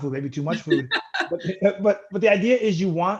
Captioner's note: laughs